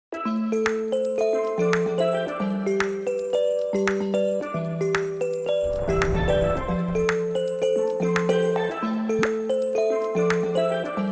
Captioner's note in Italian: Applauso